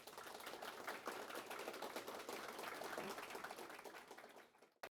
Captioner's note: audience applauding